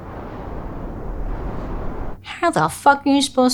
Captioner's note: wind blowing